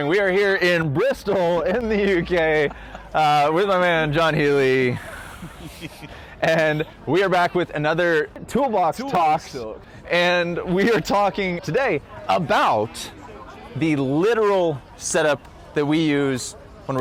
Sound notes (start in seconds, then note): 1.6 laughs